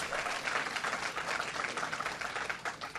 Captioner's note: applause